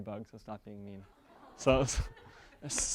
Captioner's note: audience members "awwwwws" and laughters